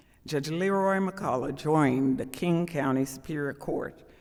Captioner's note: none